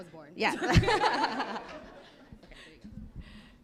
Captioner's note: laughter